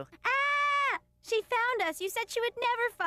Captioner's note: screams